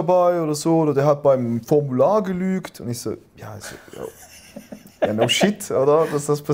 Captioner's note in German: lachen